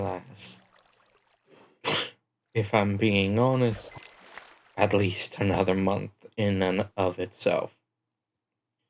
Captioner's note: pfft